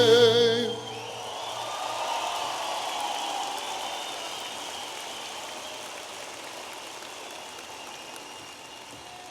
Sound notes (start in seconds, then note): 0.5 audience applauding and cheering